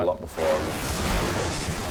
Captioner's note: zwoosh